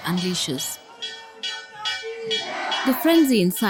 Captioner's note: bell chimes